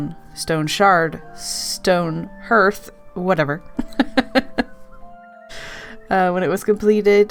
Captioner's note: laughs